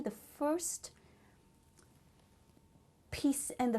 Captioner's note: pauses for 3 seconds